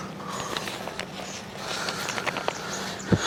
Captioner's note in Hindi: नाक से की जाने वाली आवाज़